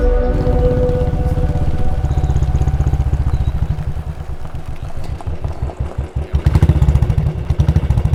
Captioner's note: chattering